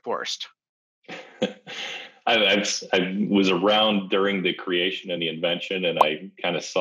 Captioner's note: laughs